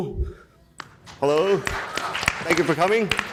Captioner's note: people clapping